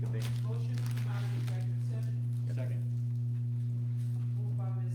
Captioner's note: electronic hum from PA system damage